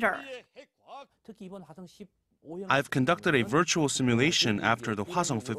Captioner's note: Korean